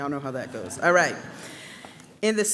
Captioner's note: audience laughing